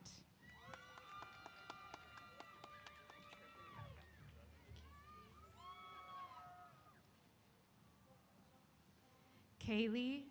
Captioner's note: applause & Cheers